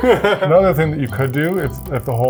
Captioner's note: laughs